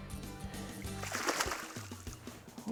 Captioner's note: fish splashing